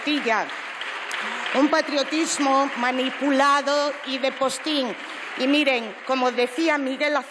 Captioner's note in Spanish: aplausos